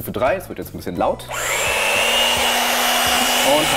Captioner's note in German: Lautes Surren